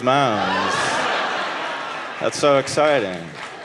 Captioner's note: audience laughing